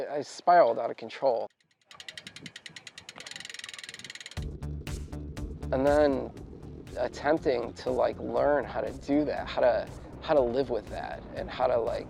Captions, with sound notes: I spiraled out of control. (wheel spinning) (upbeat techno music) And then, attempting to like learn how to do that. How to live with that and how to like